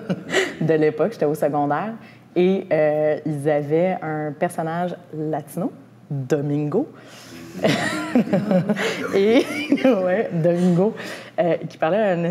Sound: laughter

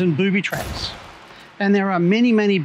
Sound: exploding

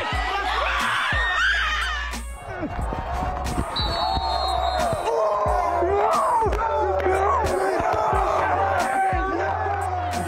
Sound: cheering

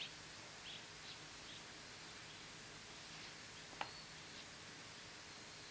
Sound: bird chirping

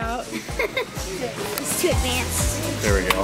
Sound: laughing

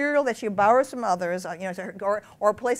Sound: none

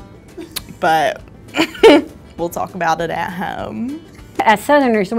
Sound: chuckles

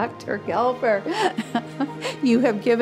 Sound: laughing

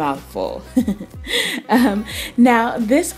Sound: laughing

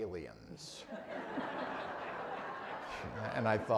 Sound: audience laughing

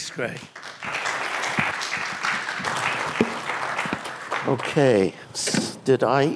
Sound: applause

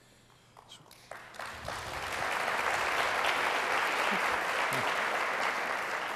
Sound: applause

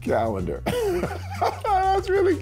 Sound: laughs

